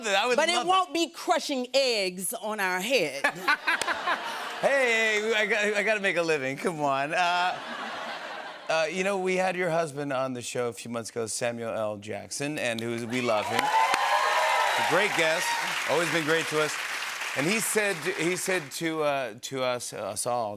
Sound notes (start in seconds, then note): 3.2 laughter; 13.0 cheers and applause